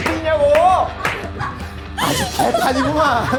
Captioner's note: laughing